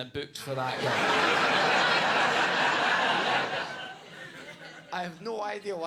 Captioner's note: audience laughing